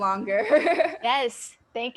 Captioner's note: laughing